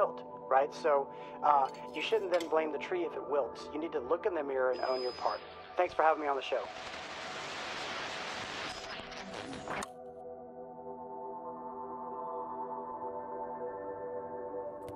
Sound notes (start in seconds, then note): 7.6 radio hissing; 9.8 soft music